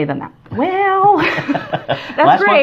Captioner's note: laughs